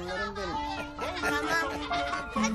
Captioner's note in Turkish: Gülüşmeler